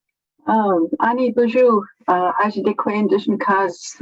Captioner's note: non-english speech